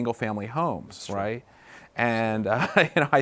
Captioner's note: laughs